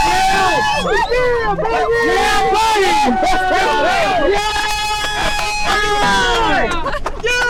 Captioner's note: crowd cheering